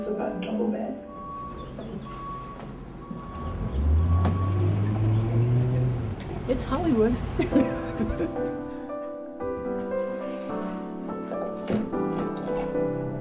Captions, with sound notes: This is about a double bed. It's Hollywood. (chuckles)